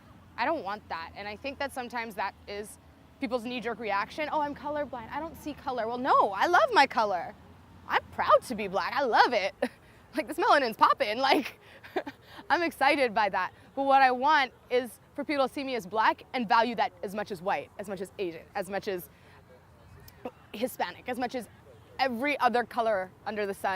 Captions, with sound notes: I don't want that and I think that sometimes that is people's knee-jerk reaction, "oh I'm color blind I don't see colour"... well no i love my colour! I'm proud to be black, I love it! like this melanin's poppin' like (laughs) I'm excited by that but what I want is for people see me as black and value that as much as white, as much as asian, as much as hispanic, as much as every other color under the sun